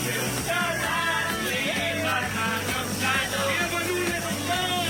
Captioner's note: crowd chanting